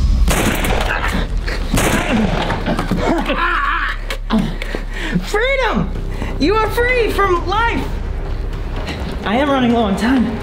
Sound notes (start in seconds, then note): 0.0 gunshot; 3.2 moaning